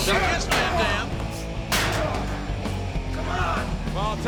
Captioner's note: Rob grunting; chair thudding